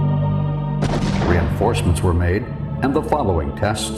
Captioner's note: rocket exploding